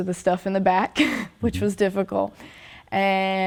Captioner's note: chuckles